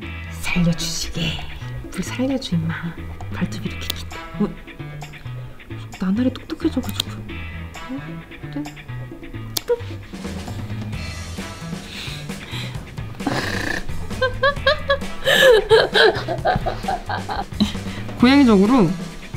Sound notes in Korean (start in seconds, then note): 11.7 웃음; 14.0 웃음 소리